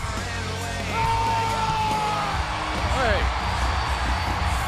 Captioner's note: Hardy shouts wordlessly